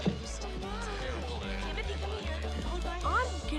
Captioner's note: townspeople muttering